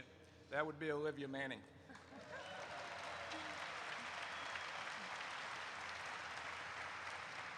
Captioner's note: audience applauds